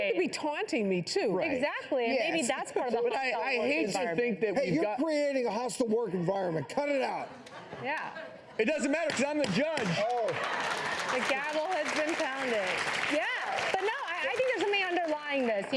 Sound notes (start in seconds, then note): 7.3 audience laughing; 10.0 hitting; 10.8 applauding; 12.6 audience clapping